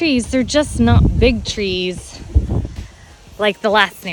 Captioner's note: air whooshing